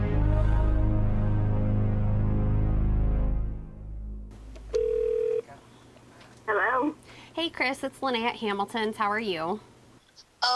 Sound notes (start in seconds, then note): 4.6 phone rings